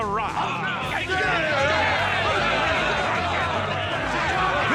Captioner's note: all shout agreement